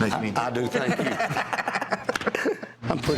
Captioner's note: laughter